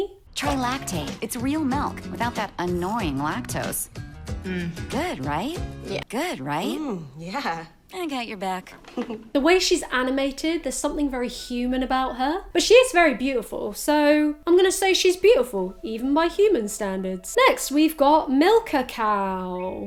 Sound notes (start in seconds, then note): 8.9 laughs